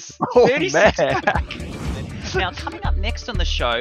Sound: laughs

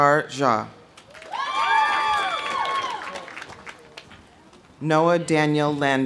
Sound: audience applauding; audience cheering

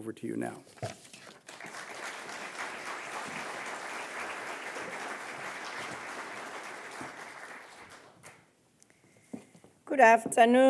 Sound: applause

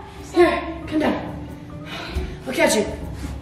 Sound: sighs

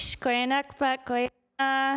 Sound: speaking indigenous language

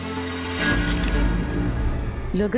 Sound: photo clicking

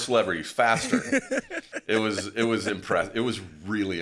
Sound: laughing quietly

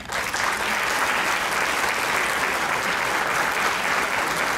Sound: crowd clapping

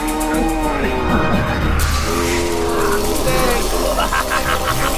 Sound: buzzing, crackling; evil laughter

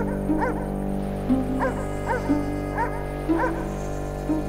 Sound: dog barking

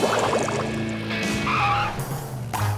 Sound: tires screeching

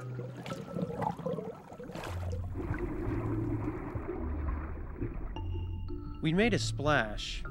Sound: water bubbling

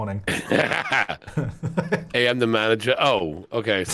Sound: laughing

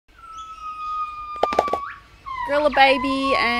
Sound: animal Noises

